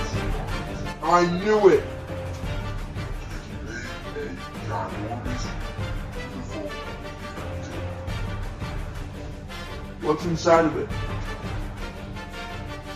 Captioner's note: gasps